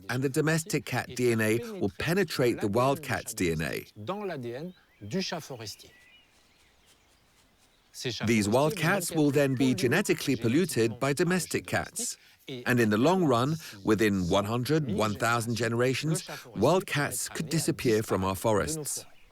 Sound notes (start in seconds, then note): 4.0 French spoken audio